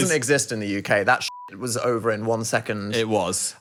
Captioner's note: beep